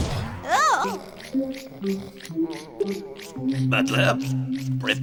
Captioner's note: Napoleon snoring